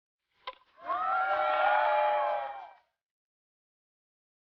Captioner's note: crowd cheers